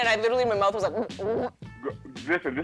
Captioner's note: gags